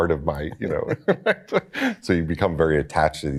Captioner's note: laughs